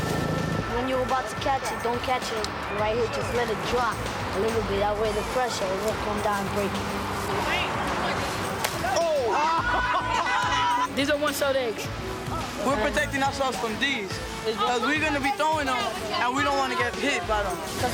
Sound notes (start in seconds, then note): 9.3 laughter